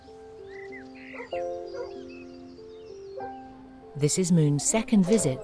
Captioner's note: birds tweet